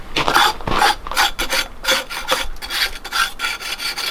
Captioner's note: knife scraping